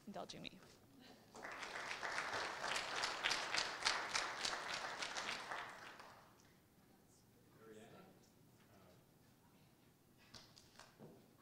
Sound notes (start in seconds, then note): 4.9 applause